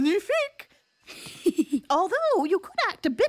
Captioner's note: chuckles